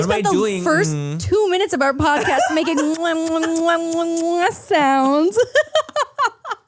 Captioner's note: smooches; laughs